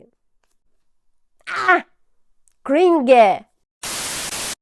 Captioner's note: shouting